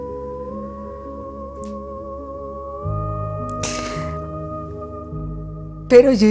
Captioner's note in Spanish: Solloza